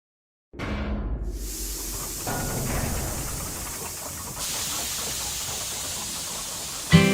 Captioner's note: gears catling; steam blowing